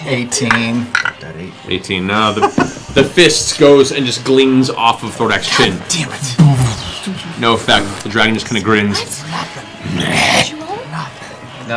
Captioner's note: growls